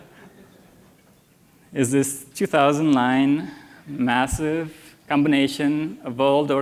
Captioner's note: laughter